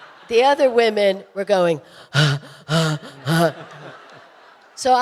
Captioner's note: audience laughing; panting